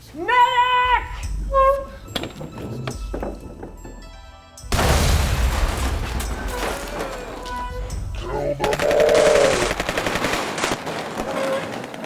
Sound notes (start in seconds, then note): 4.7 explosion